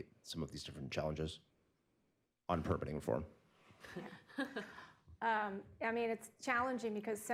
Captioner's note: laughs